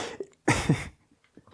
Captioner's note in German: lacht